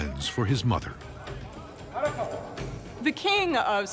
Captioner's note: yells